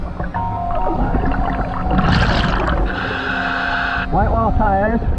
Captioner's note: water splashing